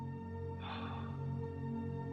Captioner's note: breathing deeply